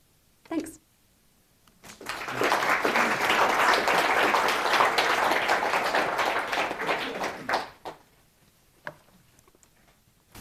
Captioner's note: applause